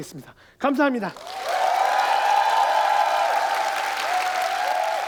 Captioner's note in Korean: 박수와 환호